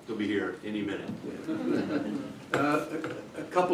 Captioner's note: laughter